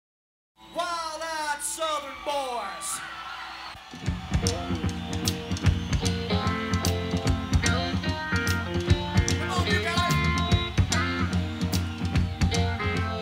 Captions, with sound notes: - Wild-eyed Southern Boys. (crowd cheering) (upbeat music) Come on, you've got it. (upbeat music)